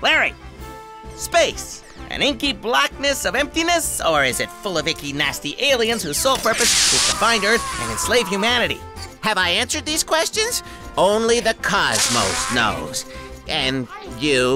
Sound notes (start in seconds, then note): 6.6 scream